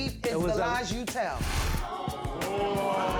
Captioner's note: audience gasps